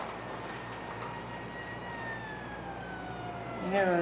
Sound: distant ambulance siren wailing

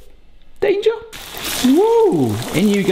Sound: chicken frying

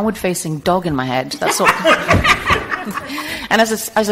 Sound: group laughing

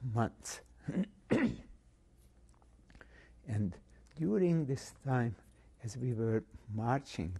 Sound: pauses for 3 seconds

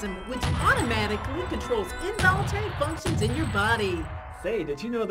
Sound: interspersed cannon fire

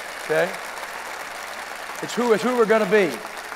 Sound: applause

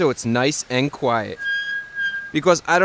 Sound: brakes squealing

